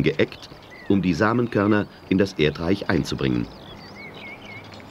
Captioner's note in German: Arbeitsgeräusche